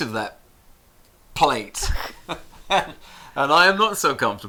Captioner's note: chuckles